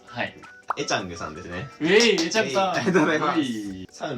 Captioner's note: applause!